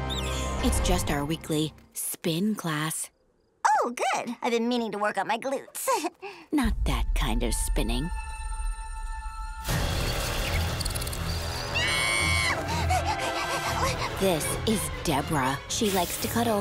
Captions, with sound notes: It's just our weekly spin class. Oh, good. I've been meaning to work on my glutes. Not that kind of spinning. [screaming] [panting] This is Debra. She likes to cuddle.